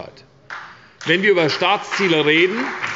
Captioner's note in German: Beifall bei der SPD